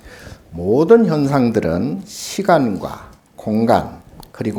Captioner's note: speaking Korean